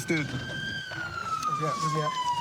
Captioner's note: siren wailing